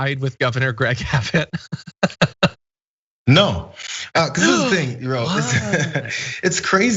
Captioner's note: laugh